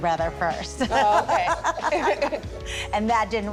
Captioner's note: laughs